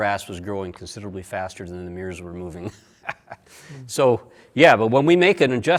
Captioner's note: laughs